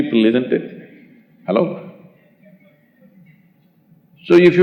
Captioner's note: laughs